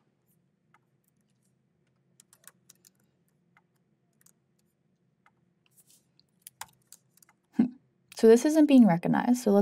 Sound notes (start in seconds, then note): 2.2 keyboard clacking